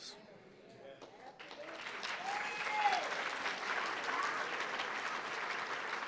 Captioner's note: audience applauding and cheering